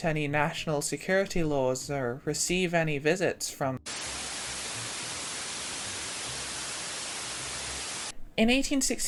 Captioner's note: buzzing noises